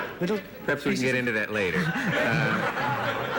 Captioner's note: laughter